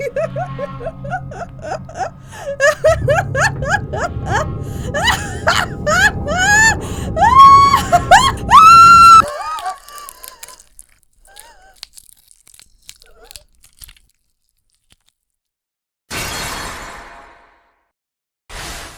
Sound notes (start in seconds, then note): 9.2 gasps; 11.2 croak; 13.0 whine